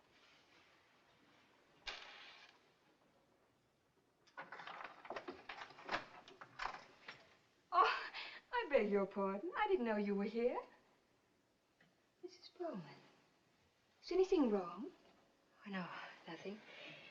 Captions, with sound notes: [Key Turning] Oh! I beg your pardon. I didn't know you were here. Mrs. Bowman, is anything wrong? Oh, no. Nothing.